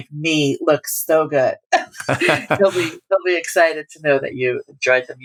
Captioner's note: laughter